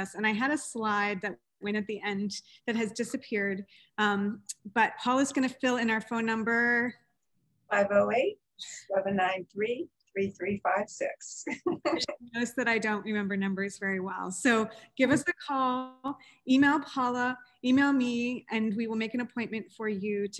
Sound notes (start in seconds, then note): 11.5 laughing